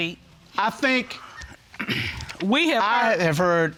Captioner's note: clears throat